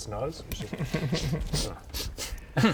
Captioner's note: sniffly sniffles